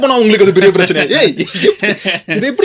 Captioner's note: laughter